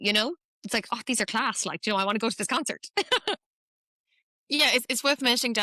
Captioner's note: laughs